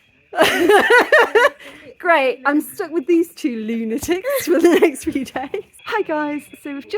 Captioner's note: laughing